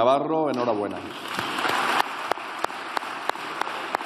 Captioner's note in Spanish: Aplausos